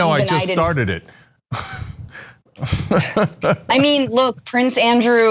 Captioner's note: laugh